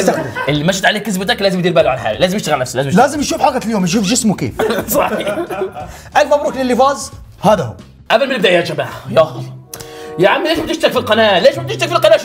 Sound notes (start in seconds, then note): 4.6 laughing; 9.2 sighs